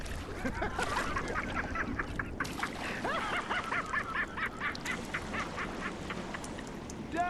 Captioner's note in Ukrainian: маніакальний сміх Клаптя